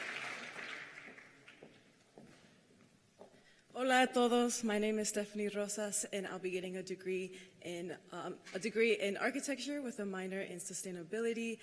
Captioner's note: cheers and applause